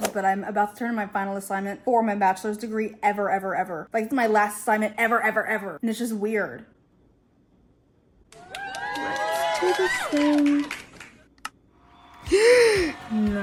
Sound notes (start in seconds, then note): 8.3 icarly clap sound effect; 12.2 gasp